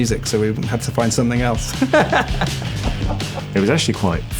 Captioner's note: laughter